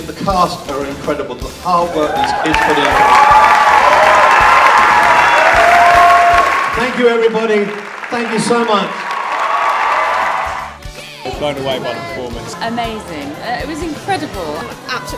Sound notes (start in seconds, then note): 3.6 applause